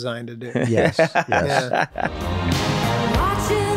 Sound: Glenn laughing

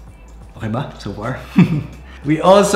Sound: giggles

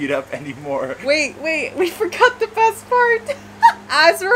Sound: laughing

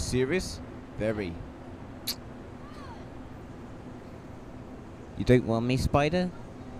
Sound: kiss

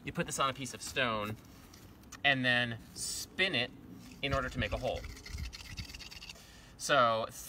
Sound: sound of twig rubbing against stone

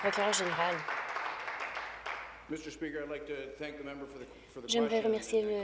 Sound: applause

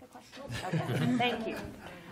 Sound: laughter

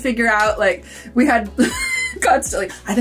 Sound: laughs

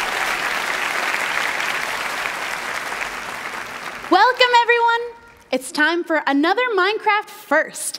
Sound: applause

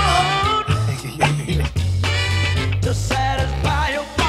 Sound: laughs

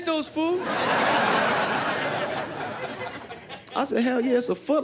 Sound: laughter

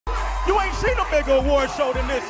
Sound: crowd cheering

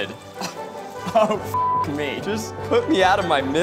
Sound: beep

